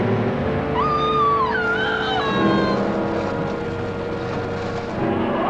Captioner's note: screaming; creature roaring